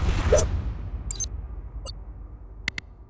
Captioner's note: shuriken whirring and slashing; high pitch beeping; mouse clicking